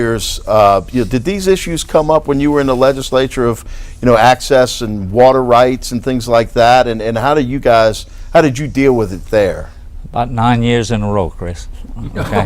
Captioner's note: laughter